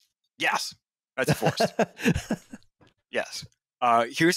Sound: laughs

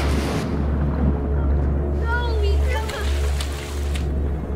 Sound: water bubbles

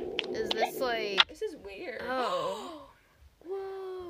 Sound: gasp

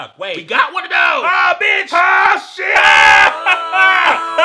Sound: screaming

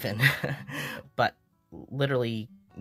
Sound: chuckle

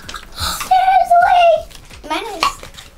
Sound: gasp

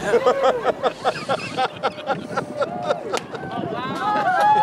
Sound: crowd laughter

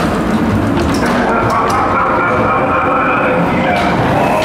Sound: laugh

